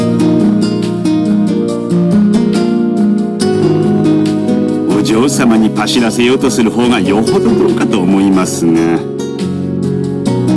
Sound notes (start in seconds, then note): none